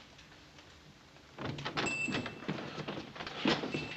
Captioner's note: door bells chiming